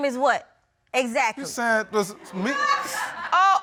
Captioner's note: stammering